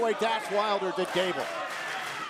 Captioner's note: crowd cheering